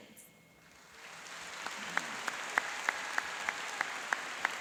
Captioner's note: applauding and cheering